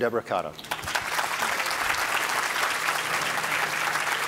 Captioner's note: audience applauding